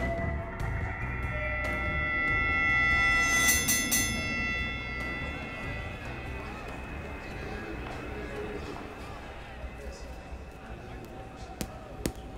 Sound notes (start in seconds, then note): 0.3 high-pitched ringing; 3.3 bell dings